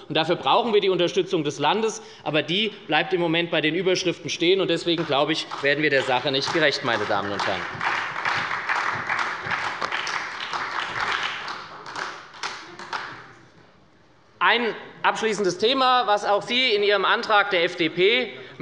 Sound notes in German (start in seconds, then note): 7.6 Beifall bei der SPD